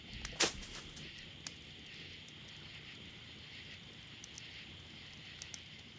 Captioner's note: fire crackling